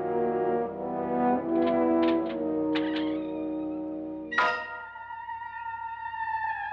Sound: eerie music; door unlocks & creaks open; eerie music

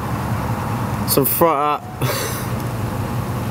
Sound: breaks into laughter

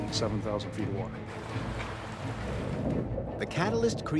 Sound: water splashing

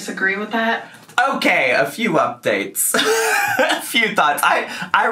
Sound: laughs

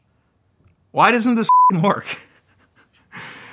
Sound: beep

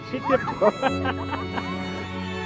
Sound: laughs

